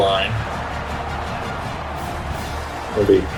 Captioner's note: crowd Noises